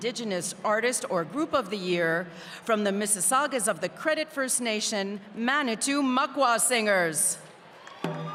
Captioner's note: speaking french